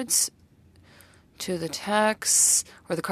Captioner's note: speaking French